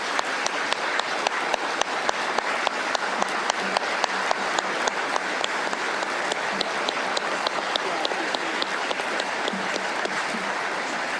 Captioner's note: applause